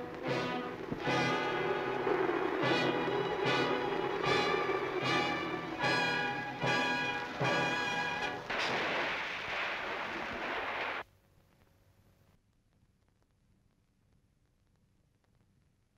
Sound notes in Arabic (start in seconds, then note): 0.1 موسيقى درامية; 9.1 رش الماء